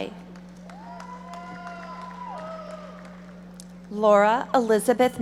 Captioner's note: audience applauding